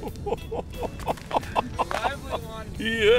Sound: laughing

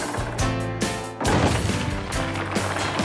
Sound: thud!

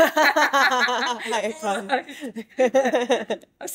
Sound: laughter

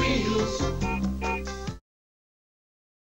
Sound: horn toots

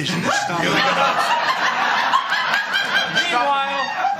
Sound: laughter

